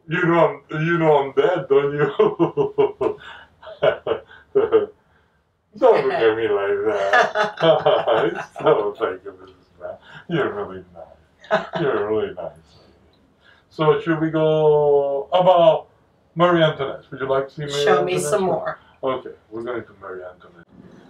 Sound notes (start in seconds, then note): 0.1 laughs; 3.0 continues laughing